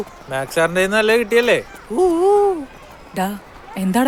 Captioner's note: hooting